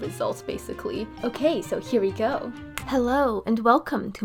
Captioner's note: snap